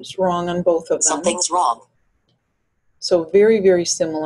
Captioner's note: voiceover